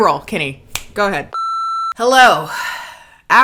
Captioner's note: beep